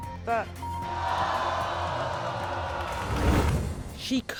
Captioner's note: audience groans